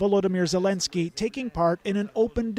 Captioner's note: speaking alternate language